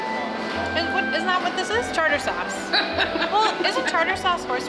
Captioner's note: fumbling over words